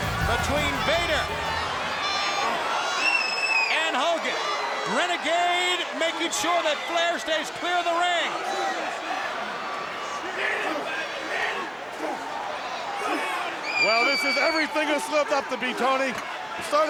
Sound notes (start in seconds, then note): 1.8 crowd cheering; 8.2 wrestlers grunting; 8.7 crowd cheering